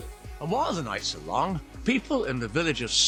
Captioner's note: TV sound - presenter